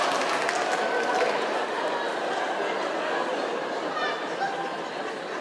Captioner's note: crowd laughing